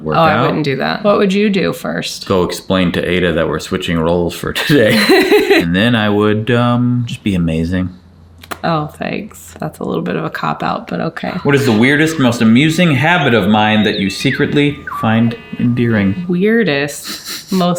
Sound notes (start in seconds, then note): 4.5 laughing